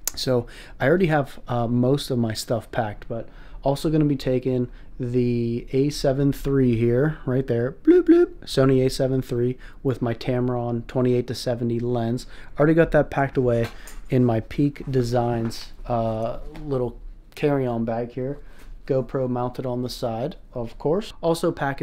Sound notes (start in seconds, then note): 7.8 bloop